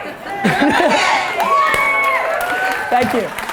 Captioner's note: audience cheers